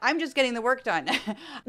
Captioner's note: laugh